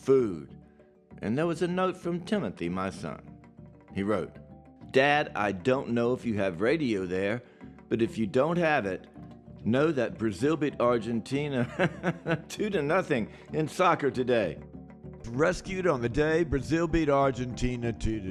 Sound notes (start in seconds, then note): 11.6 laughs